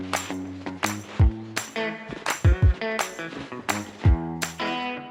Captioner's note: sounds of crunching snow